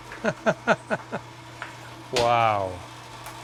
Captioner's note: laughter